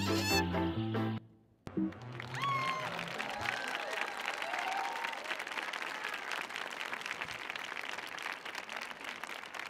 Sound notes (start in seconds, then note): 1.9 audience cheering; 1.9 audience applauding